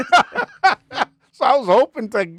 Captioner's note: laughing